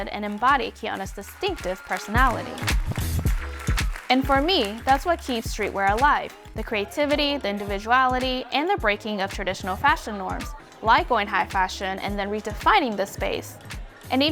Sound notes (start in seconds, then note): 2.4 audience applauding; 2.4 upbeat music